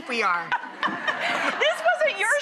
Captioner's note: both laugh